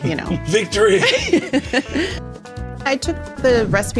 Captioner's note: laughs